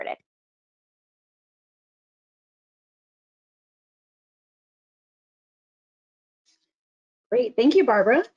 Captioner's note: silence